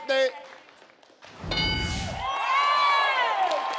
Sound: board dings; audience cheering

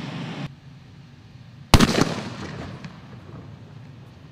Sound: explosive boom

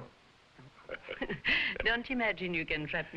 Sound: both chuckling

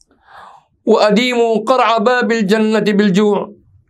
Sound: arabic

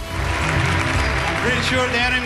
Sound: ambient music; audience applause

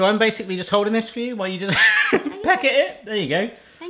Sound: wheezing laugh

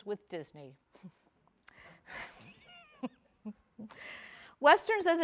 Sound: laughing

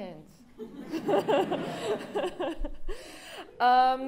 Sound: laughter

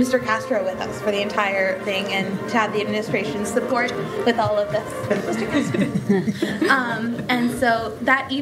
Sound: laughter

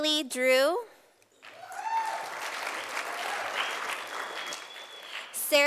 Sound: sound of applause from audience

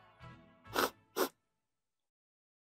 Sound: snif, snif

